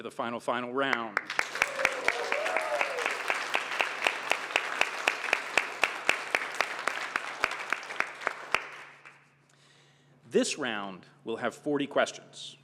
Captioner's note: applause